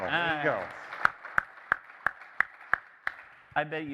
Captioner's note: applause